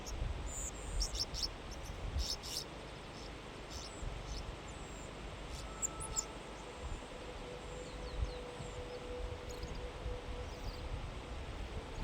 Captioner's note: birds chirping